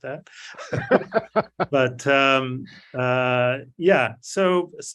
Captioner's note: laughs